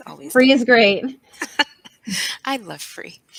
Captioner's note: soft laughter